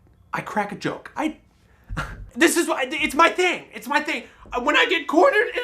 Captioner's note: laughs